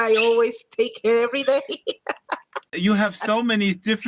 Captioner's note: laughs